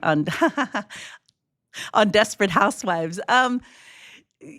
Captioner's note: laughs